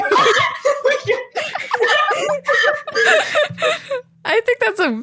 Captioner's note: laughter